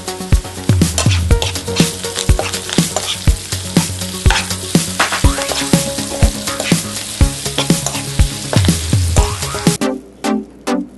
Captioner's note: stir-fry the onion, sizzling sound in the background; stir-fry the carrot, sizzling sound in the background